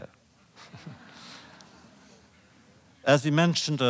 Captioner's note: laughter